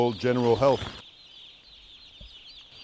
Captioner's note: chicks chirping